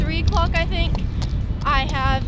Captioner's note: wind blowing